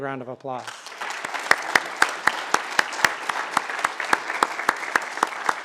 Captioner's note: applause